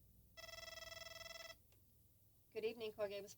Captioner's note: telephone rings